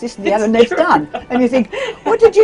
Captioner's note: laugh